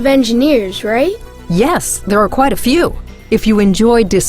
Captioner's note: voiceover